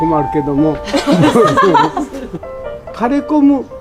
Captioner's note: laughter